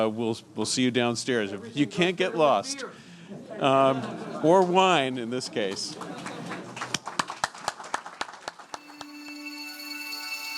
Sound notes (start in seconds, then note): 5.7 audience applauding